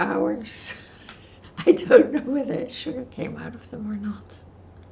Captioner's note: laughing